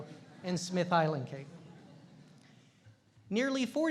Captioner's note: audience chuckling